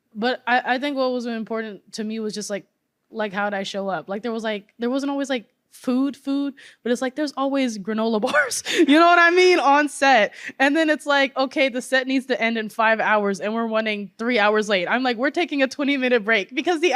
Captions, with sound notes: but I, I think what was important to me was just like, how'd I show up? There wasn't always food, food, but it's like there's always granola bars, (laughter) you know what I mean, on set. And then it's like, okay, the set needs to end in five hours, and we're running three hours late. I'm like, "We're taking a 20-minute break," because